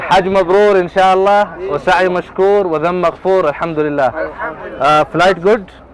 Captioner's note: Arabic